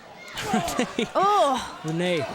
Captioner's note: Breeze laughing